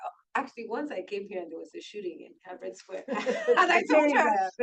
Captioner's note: laughs